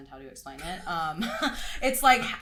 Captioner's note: both laugh